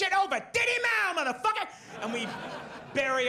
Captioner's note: audience laughs